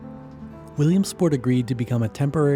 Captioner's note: voiceover